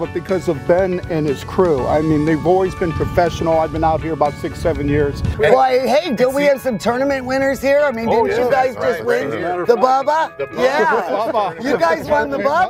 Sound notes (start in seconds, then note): 10.6 laughing